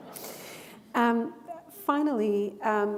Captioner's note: chuckle